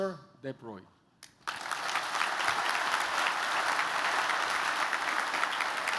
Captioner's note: applause